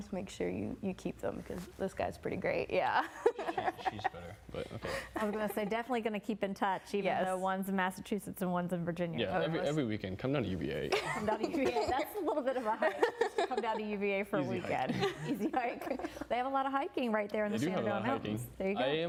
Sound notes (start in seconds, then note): 14.8 laughing